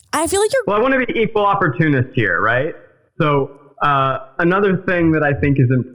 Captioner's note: none